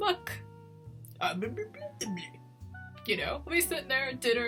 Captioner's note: mimics burbling